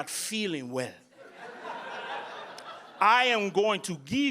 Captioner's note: audience laughing